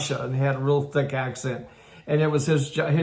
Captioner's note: none